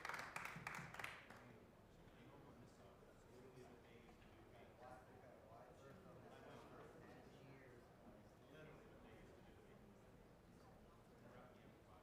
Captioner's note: applause